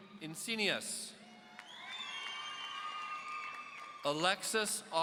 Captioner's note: audience cheering